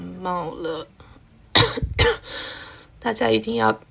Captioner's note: cough😷